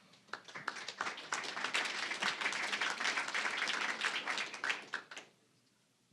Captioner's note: applause